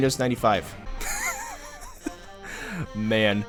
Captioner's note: chuckle